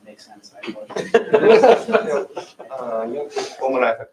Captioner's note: laughter